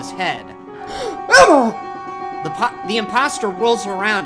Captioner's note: gasps